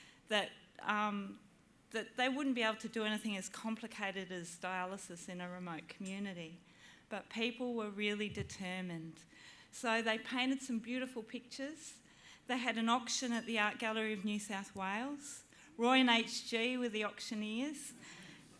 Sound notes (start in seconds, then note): none